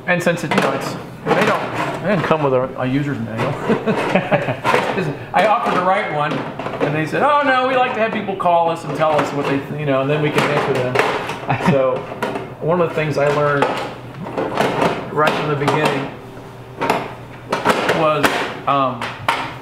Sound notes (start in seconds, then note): 3.3 laughing